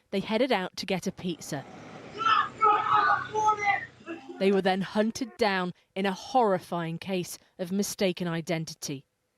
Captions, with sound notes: they headed out to get a pizza. [yelling] They were then hunted down in a horrifying case of mistaken identity.